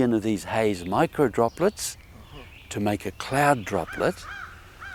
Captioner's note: speaking in Nuu-chah-nulth